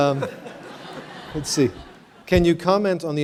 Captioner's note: laughter